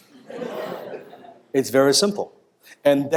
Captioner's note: laughter